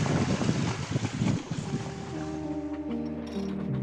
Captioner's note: wind whooshing; gentle music